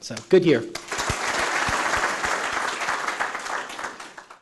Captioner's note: clapping